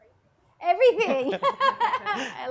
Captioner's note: laughs